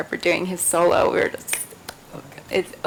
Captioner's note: hands clap